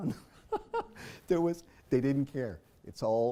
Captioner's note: laugh